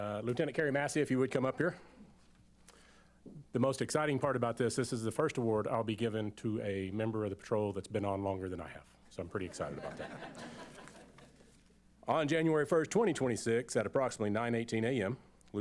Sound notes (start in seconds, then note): 9.5 laughter